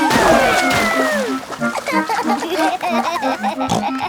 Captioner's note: giggling; snorts